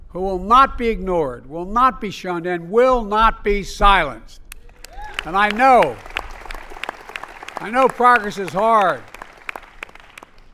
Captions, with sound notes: who will not be ignored, will not be shunned, and will not be silenced. (Applause.) And I know -- I know progress is hard.